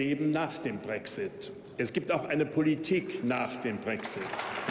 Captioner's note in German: Beifall bei der AfD